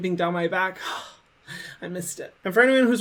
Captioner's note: exhales